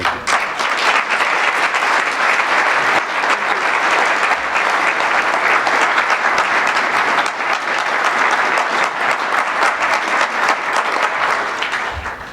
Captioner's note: applause